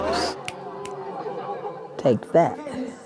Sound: snaps

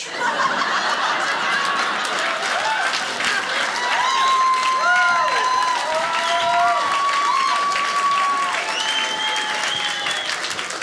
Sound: audience applauding

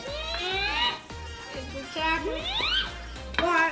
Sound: squeals

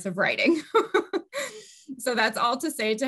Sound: laughs

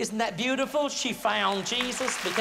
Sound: applause

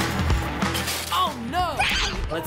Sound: screaming

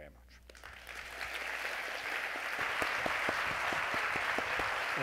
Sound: audience applauding

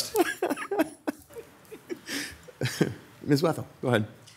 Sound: laughing

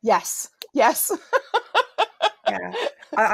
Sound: laughs

